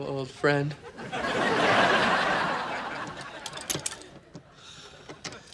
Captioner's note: audience laughing